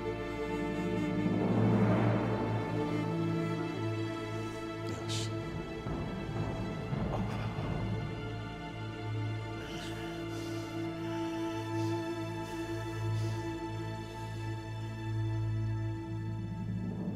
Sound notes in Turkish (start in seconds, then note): 6.9 İnilti sesi